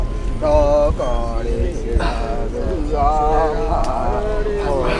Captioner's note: tribesmen chanting